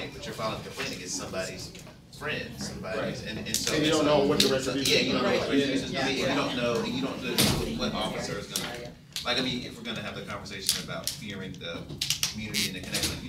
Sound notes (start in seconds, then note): 5.4 all chattering